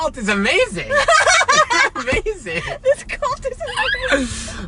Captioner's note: laughs